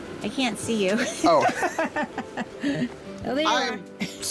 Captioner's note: woman laughing